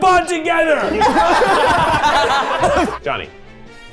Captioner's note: everyone laughing